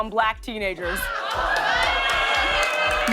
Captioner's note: audience groans